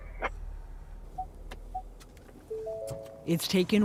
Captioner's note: car beeps, chimes